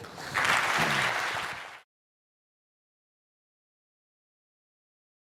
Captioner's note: audience applauds